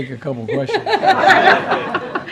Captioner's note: laughter